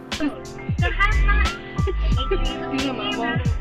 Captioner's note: laughter